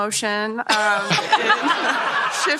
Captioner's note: laughter